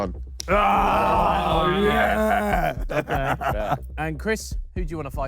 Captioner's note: panel grunts